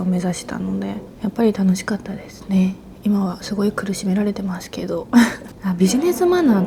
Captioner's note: laughs